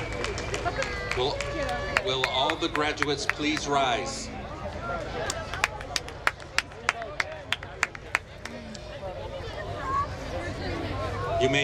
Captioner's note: applause